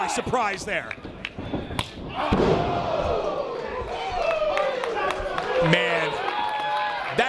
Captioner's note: applause